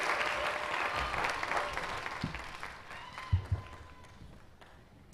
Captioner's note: cheers and applause